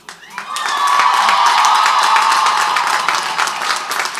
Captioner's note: crowd applauds